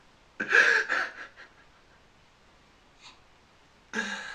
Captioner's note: laughs